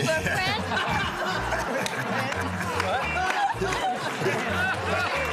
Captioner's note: laughter and applause